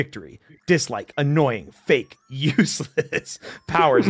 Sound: laughs

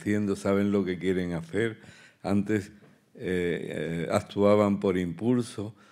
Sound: continues in Spanish

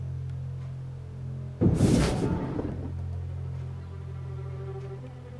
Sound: loud smash

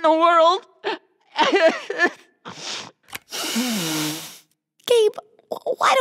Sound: sobbing

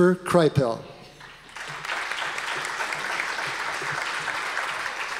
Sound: audience applause

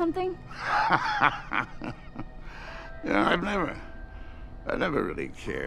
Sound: laughs

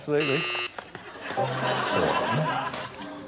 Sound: buzzer buzzes

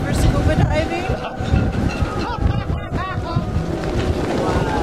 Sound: laughter

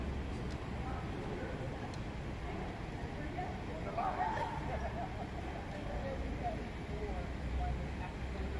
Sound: talk and laughter from the sidewalk

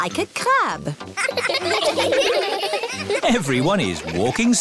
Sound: laughing

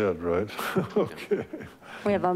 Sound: chairman laughs

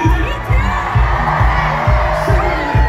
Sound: cheering

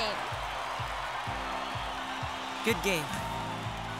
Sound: audience cheering

